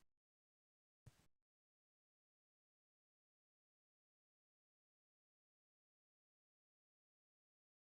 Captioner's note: silence